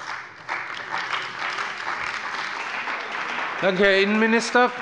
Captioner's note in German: Beifall bei der CDU und dem BÜNDNIS 90/DIE GRÜNEN